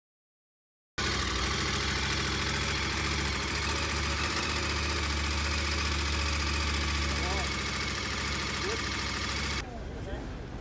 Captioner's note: engine noise